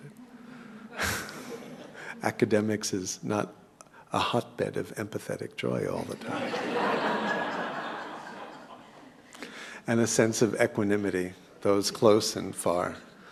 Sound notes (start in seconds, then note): 0.2 laugh; 6.1 laugh